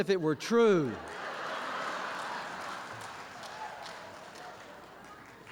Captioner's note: laughter